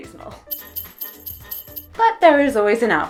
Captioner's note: sleigh bells